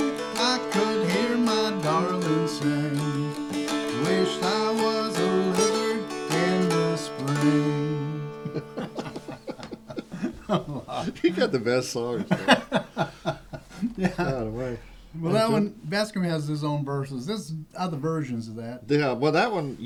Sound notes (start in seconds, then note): 8.4 laughter